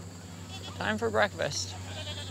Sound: goats bleat

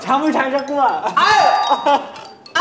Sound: ring

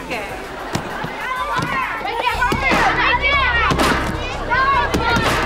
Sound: chattering

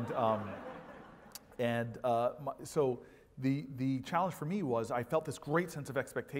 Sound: laugh

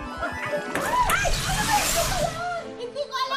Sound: screams

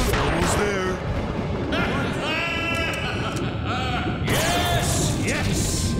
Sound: laughing

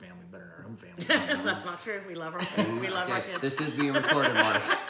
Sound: laughing; laughing

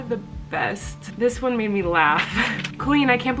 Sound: laughing

